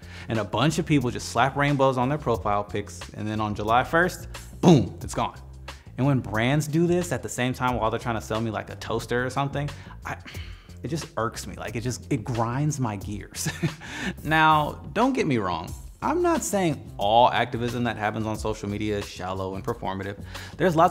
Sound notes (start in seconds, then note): 10.1 sighs; 13.4 chuckles